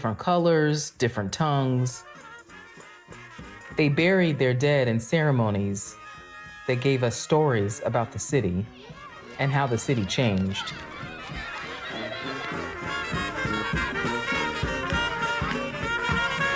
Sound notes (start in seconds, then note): 11.3 children chattering, ceremonious music